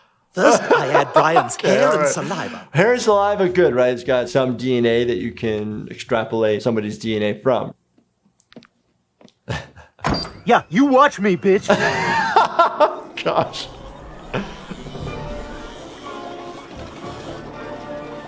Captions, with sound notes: First I add Brian's hair and saliva. - Hair and saliva, good, right? It's got some DNA that you can extrapolate somebody's DNA from. - Yeah, you watch me, bitch. - (laughs) Gosh. (suspenseful music)